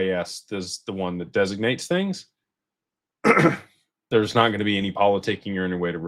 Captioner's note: clears throat